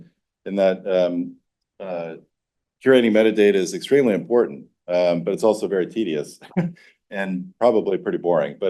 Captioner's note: laughs